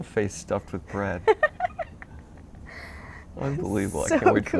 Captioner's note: giggles